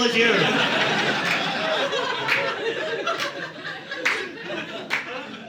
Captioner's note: audience laughing